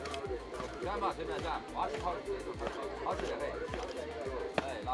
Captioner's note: chatter in background